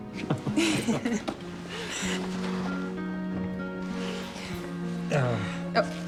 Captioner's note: laughter